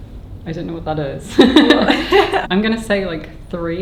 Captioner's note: both laughing